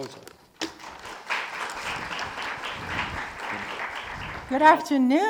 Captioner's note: audience clapping